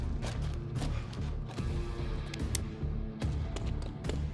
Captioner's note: uncocks rifle